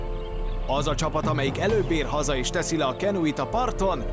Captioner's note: none